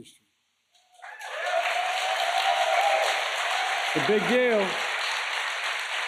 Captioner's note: applause